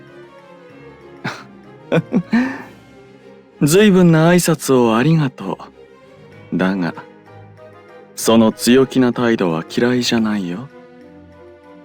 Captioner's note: laugh